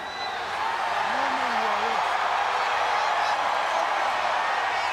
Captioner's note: audience cheering